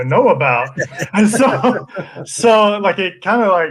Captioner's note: all laugh